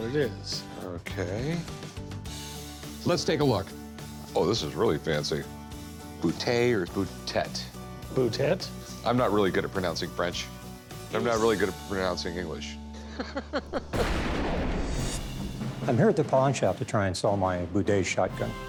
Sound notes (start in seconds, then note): 12.9 laughter